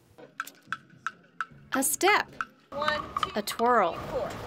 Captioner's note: nats: tap, tap, tap